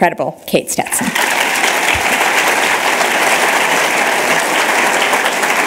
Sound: applause

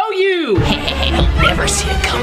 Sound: evil laugh

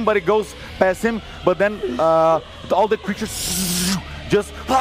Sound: grunting

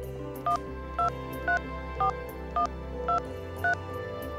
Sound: keys beeping

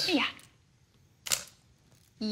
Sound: camera clicks

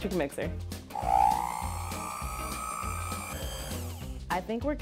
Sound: mixer whirs

